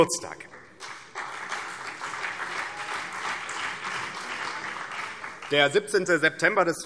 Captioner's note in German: Beifall BÜNDNIS 90/DIE GRÜNEN und vereinzelt CDU